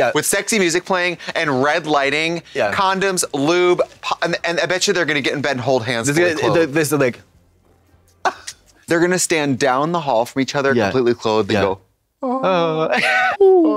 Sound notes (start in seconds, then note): 8.0 kissy sounds